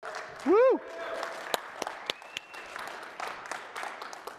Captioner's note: applause